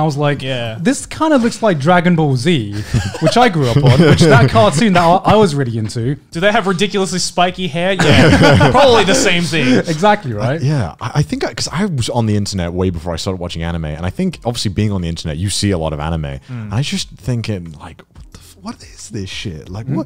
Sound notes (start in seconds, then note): 2.8 laughing softly; 8.0 laughing softly